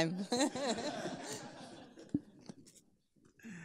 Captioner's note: people laughing